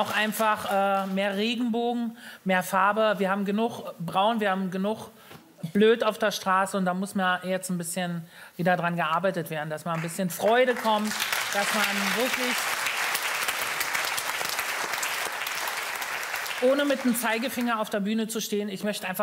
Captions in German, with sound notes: Und einfach mehr Regenbogen, mehr Farbe. Wir haben genug Braun, genug Blöd auf der Straße. Da muss wieder dran gearbeitet werden. Damit wieder mehr Freude kommt, dass man ... *Beifall* Ohne mit dem Zeigefinger auf der Bühne zu stehen.